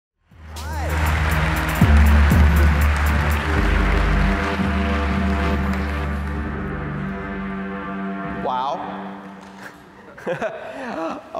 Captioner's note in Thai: หัวเราะ